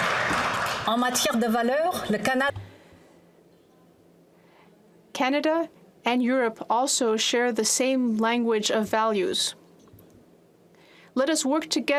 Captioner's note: applause